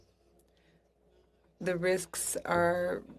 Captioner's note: speaking in French